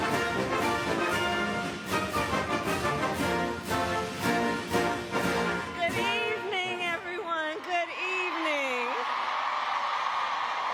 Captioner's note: cheers and applause